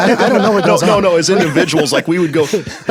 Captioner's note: laughs